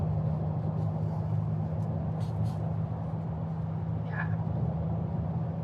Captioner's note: sniffles